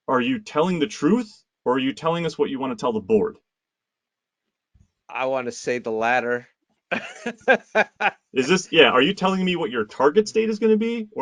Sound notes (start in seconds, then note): 6.9 laughs